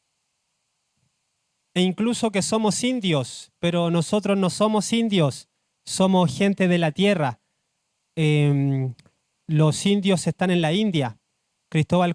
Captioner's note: speaking Spanish